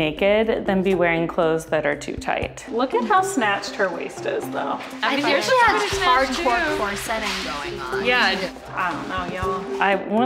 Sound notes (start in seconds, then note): none